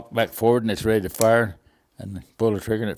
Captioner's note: rifle clinks